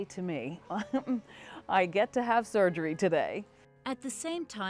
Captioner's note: laughs